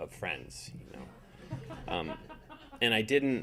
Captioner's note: audience laughing